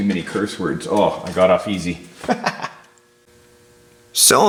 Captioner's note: laughing